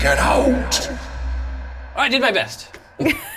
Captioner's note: laughs